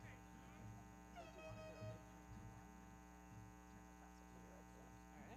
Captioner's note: foghorn blowing